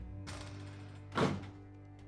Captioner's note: door slams; orchestra plays softly